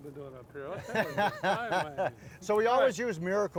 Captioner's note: chef laughs